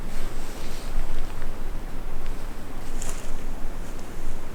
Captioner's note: wind fluttering